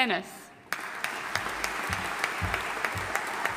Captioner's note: audience applauding